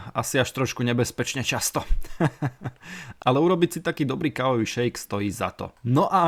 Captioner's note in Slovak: smiech